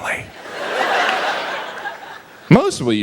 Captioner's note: audience laughs